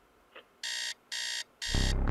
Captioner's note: alarm beeps